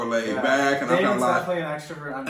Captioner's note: excited croaking